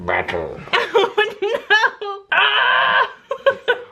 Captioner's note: grunts; laughs